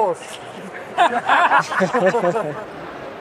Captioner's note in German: Lachen